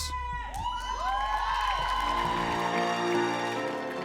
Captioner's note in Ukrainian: оплески